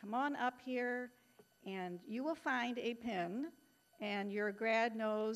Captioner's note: none